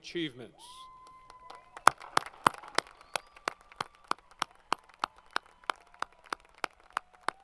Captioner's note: applause